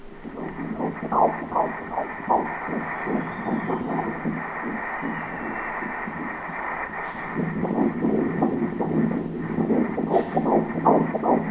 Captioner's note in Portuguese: batimentos cardíacos